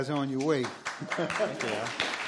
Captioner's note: applause